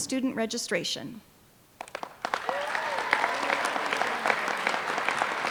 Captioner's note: applause